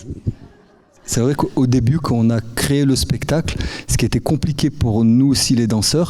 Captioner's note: speaking in French